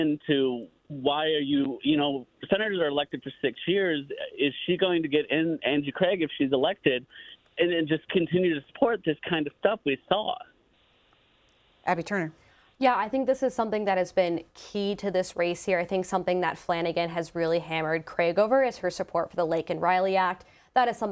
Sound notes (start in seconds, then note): none